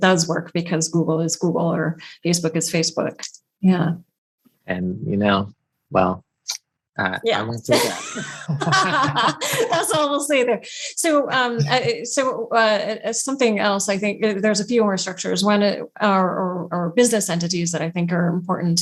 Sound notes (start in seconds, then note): 11.3 laughs